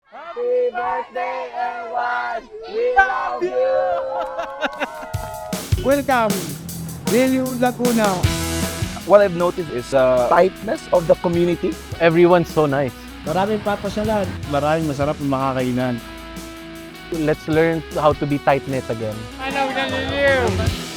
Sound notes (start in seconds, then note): 4.3 cheers